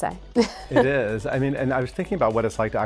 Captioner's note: Sara chuckles